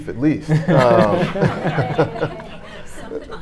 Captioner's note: audience laughing